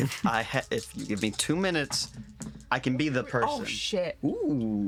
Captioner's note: dice clattering